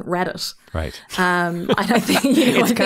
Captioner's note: pair laughing